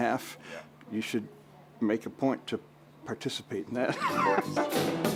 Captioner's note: laughs; relaxing music